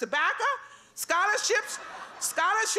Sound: laughter

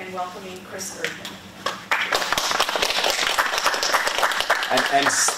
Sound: applause

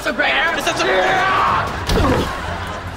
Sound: screaming

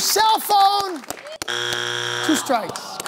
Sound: buzzer sounds

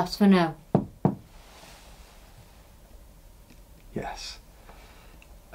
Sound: taps twice

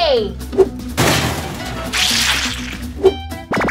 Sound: crushing

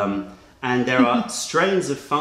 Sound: laughter

